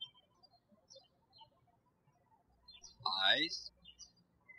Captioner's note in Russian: птички щебечут